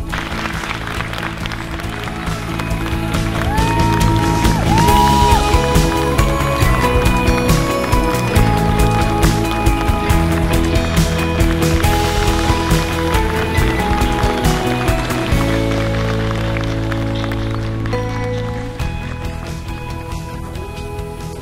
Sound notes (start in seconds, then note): 0.3 applause; 3.9 cheering; 6.9 upbeat music